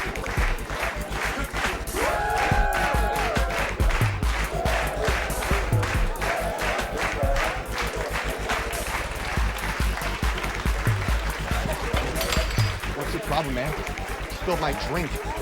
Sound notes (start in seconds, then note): 0.1 people clapping; 3.0 people cheering